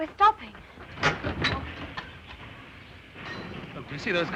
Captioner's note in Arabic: صوت القطار